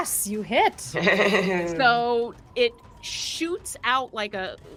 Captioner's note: chuckles